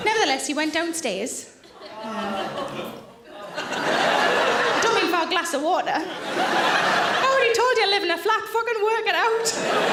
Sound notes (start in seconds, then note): 4.0 audience laughing; 9.3 audience laughing